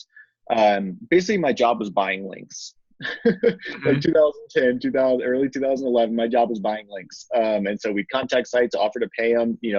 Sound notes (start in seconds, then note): 3.0 laughs